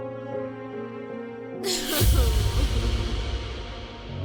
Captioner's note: echoing cry